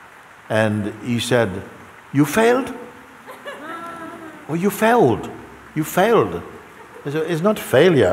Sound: laughter

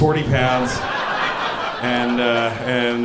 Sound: audience laughing

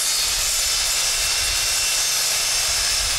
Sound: saw whirring

